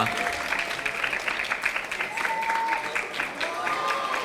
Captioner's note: audience applauding; audience cheering